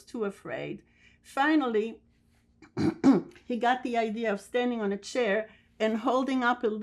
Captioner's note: clears throat